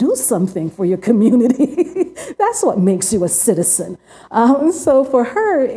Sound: laughs

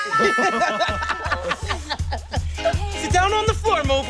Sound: giggles

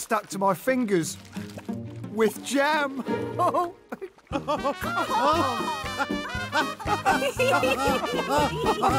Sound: all laugh

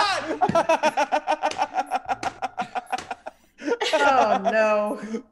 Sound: laugh

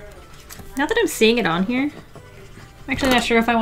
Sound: none

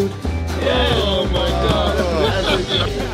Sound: chatter/laughter

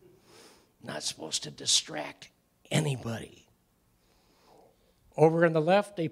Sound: whispering

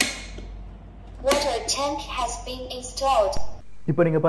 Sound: robot speaks

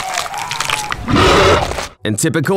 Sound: arrgh

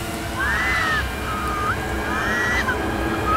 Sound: cries in pain; music intensifies; screams in pain

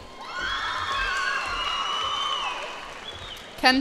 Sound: cheers and applause

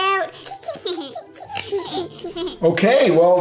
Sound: giggle

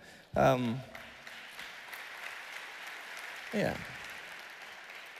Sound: audience applauding

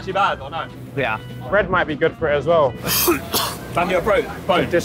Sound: coughs

